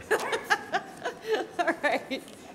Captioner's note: laughing